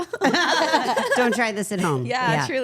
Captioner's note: all laughing